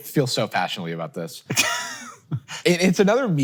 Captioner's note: Hank chuckles